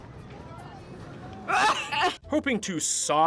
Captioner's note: sob